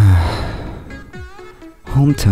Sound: sigh

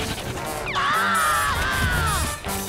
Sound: screaming

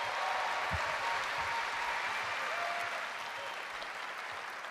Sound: cheers and applause

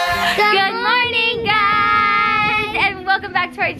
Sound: in Unison

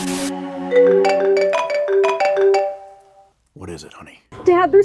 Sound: phone ringing

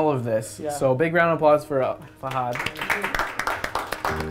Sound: applause

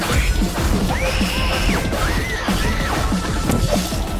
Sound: panicked autistic screaming

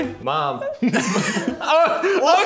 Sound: all laughing

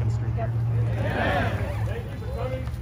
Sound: crowd

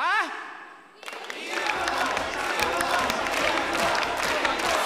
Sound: crowd in unison

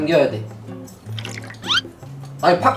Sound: drip drip

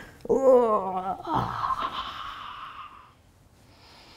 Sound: laughing; grunting

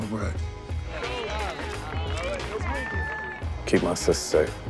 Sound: cheering

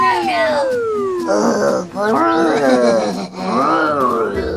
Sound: monsters groaning

